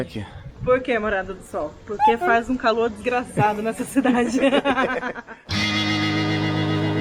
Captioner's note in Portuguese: risada